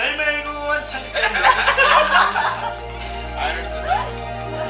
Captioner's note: singing in Korean; laughter